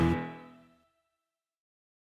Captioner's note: music stops